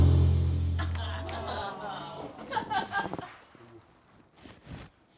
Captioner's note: intense music; friends laugh